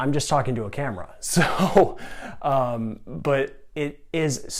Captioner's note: giggling